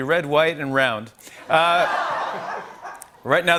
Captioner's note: laughter